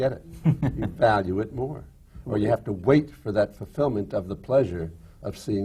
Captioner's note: laughs